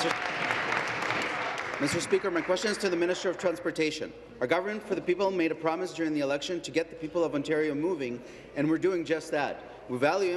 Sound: some Applause

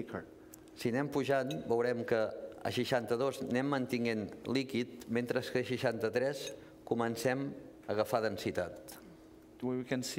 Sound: speaking catalan

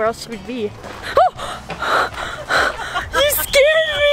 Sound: gasps; laughing

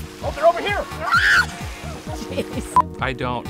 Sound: screams

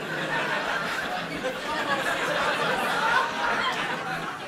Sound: laughter

